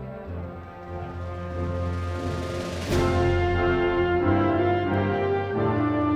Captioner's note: crowd cheering